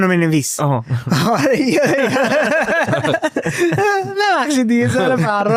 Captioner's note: laughs